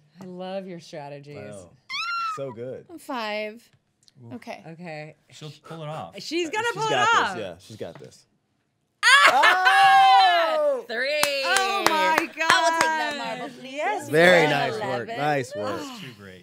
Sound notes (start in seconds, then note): 11.1 clapping